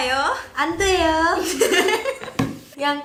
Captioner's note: laughing